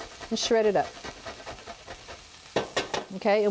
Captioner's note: scraping; tapping